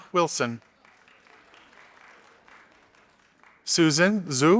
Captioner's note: audience applauding